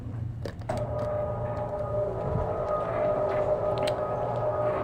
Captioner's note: board lever whirring